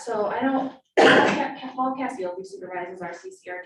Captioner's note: coughing